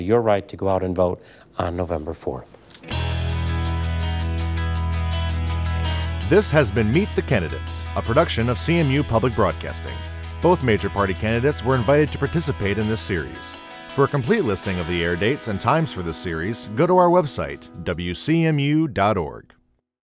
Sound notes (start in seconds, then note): 6.2 voiceover